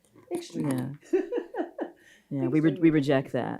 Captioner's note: laughs